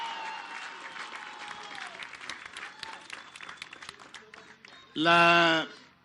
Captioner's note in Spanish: aplausos